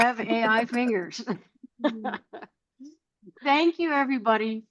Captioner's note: laughter